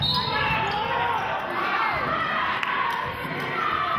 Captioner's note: whistling; yelling